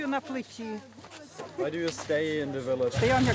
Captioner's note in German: englisch